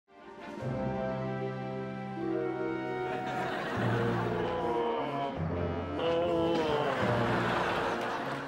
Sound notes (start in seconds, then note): 5.9 moans